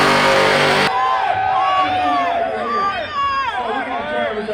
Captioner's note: crowd cheering